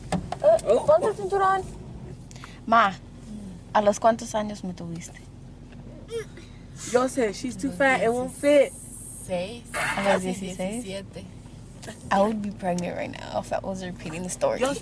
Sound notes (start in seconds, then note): 3.3 speaks in foreign language